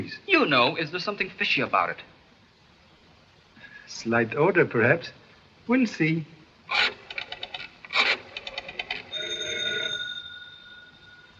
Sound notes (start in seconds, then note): 7.9 phone rings